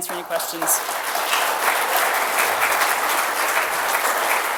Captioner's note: applause